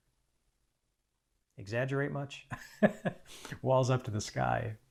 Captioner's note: chuckles